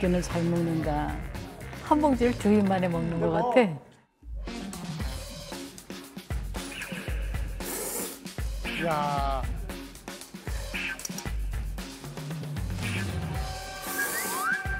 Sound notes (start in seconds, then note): 7.5 slurping